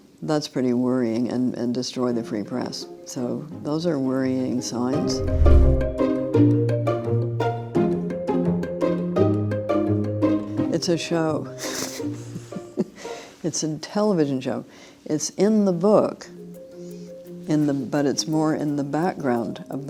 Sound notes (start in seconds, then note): 5.4 bright upbeat music; 11.6 laughs